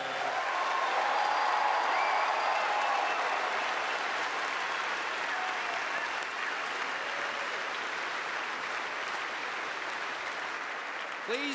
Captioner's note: cheers and applause